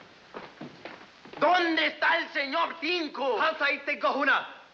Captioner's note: speaking in foreign language